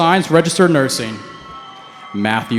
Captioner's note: cheering